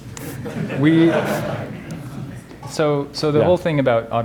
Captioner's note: crowd laughs